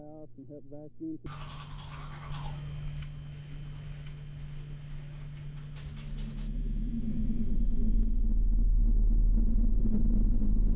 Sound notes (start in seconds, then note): 1.1 buzzing; 1.1 rustling